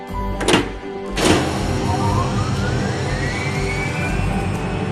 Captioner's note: device powering up